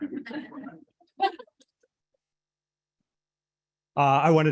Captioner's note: audience laughing